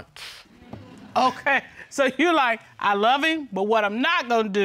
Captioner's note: chuckles